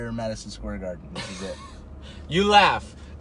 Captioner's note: laughing